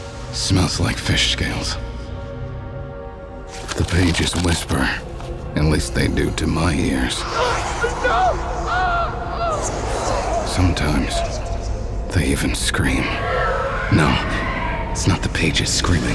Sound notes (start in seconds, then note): 7.2 grito; 9.1 eco de voces etéreas; 13.2 alarido etéreo